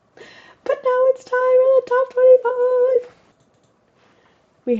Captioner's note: excitedly